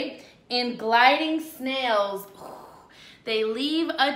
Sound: blows

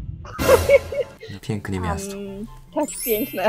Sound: Polish

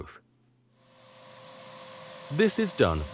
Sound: vacuum cleaner whirring

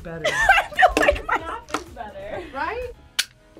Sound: laughs

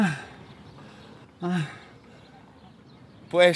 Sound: complaining

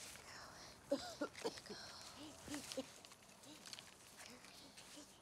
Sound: Delaney coughing

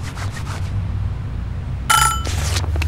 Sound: ding!

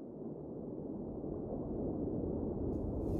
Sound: wind blowing

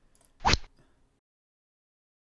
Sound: rod sound

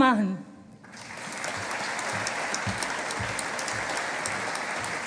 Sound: audience applauding

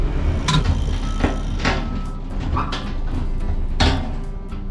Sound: metallic clanking

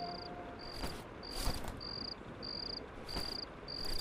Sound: crickets chirping

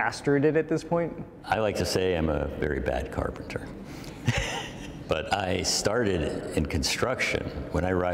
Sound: laughter

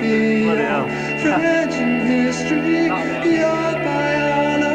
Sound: alarm bells ring

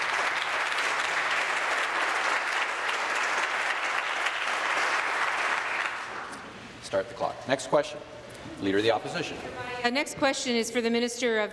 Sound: applause

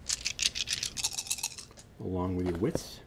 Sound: dice rattle and thud

